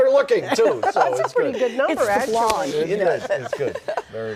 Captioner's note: laughter